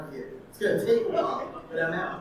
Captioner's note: audience laughing